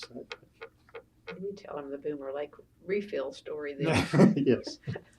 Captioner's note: laughter